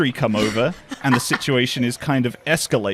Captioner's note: laughs